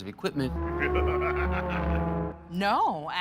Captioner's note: maniacal laughter